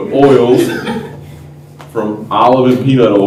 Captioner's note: laughter